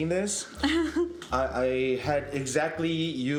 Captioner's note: chuckles